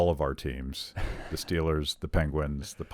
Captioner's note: laughs